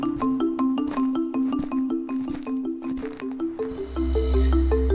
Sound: upbeat music continues; footsteps crunching; upbeat music continues

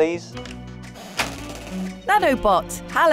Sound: door creaks

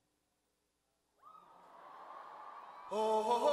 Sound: cheering; singing

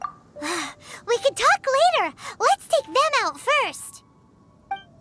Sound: sigh

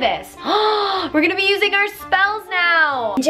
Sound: gasps

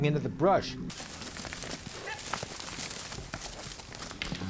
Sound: twigs crackling

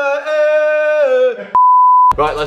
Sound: beep

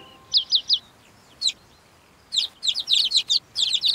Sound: chirping

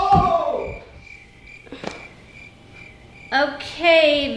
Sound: crickets chirping

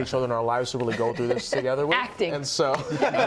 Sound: laughter

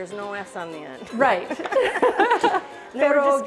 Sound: both laugh

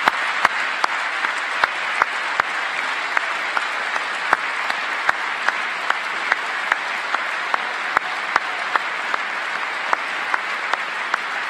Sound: cheers and applause; applause

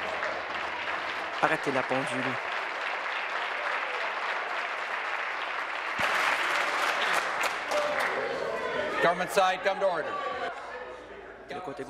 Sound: applause

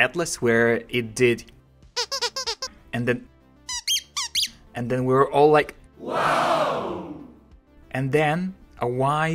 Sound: funny squeaking; crowd going wow

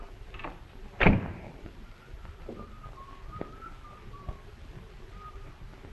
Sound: door closes - whistles

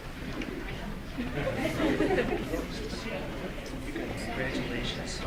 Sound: audience chattering

